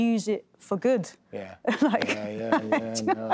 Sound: laughs

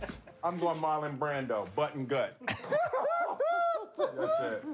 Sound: laughing

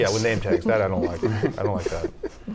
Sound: laughter

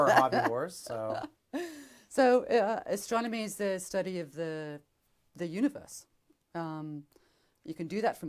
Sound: laughs

